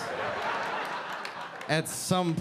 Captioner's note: audience laughing